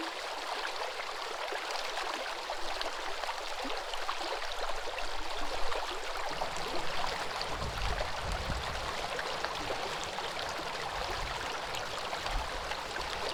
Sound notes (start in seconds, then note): 2.7 water burbling